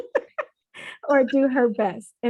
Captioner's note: chuckles